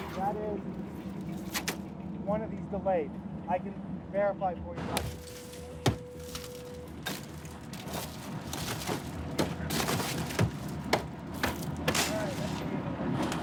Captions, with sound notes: - Got it. One of these delayed. I can verify for you that. [glass breaking] [hammering] [hammering]